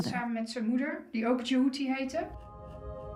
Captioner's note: speaks Dutch